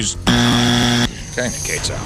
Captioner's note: buzzer